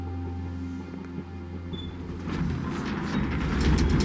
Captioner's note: none